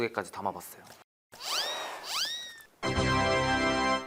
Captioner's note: spinning